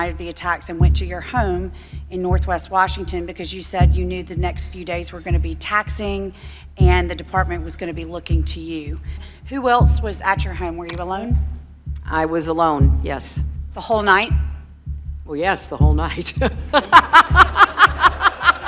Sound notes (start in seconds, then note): 16.4 laughing